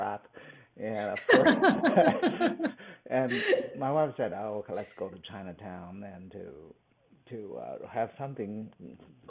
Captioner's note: laughs